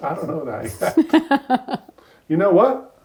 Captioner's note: laughs